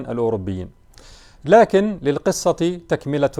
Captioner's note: Ukrainian